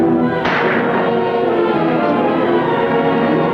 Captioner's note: gun firing; exciting orchestral music